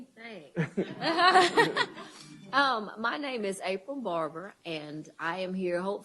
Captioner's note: laughs